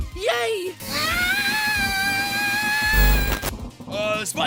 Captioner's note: scream